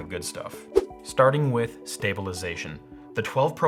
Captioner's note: whooshing